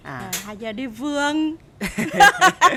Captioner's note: laugh